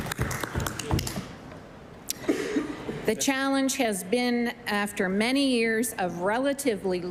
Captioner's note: applause